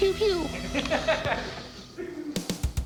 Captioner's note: laughter